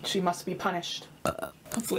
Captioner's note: burps